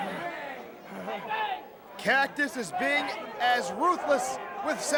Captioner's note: crowd chatter